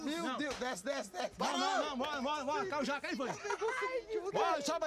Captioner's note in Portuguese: risada